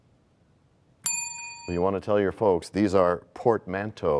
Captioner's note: bell rings, time expires